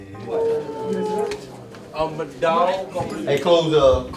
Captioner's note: voiceover